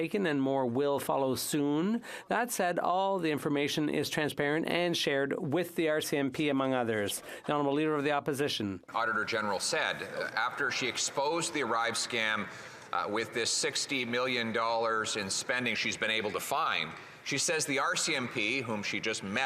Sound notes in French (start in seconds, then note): 13.4 voix de l'interprète